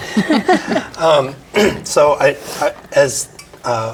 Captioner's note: all chuckling